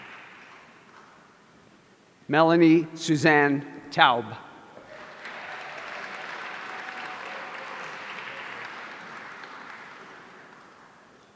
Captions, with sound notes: Melanie Suzanne Taub. (audience applauding)